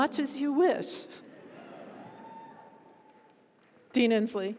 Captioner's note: audience laughs